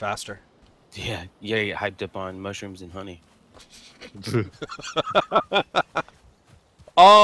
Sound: laughter

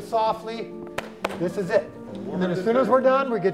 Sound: claps

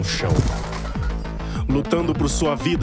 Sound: noise of struggle between the robot and Nic

